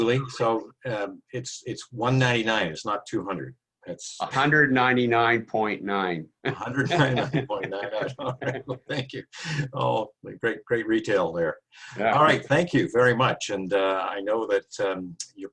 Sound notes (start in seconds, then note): 6.4 laughter